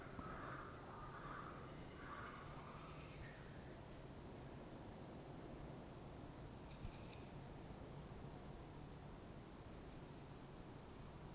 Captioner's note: toads noises in the background